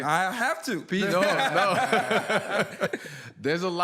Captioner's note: laughter